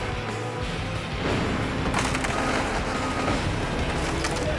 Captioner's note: crushing sounds